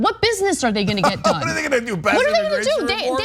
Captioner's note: laugh